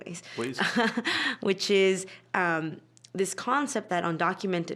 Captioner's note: chuckling